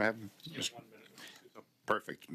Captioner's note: speaking French